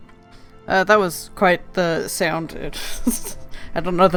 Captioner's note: snickers